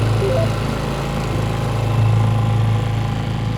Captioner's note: bell chimes